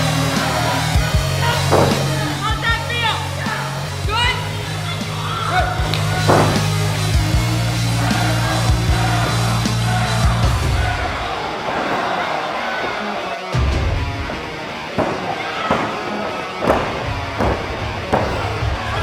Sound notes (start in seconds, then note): 1.6 thud; 4.6 woman screaming; 5.9 thud; 6.5 crowd cheering; 6.5 rock music playing; 14.8 thud; 16.6 referee tapping the floor